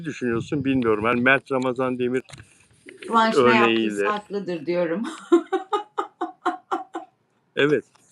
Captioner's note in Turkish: kahkaha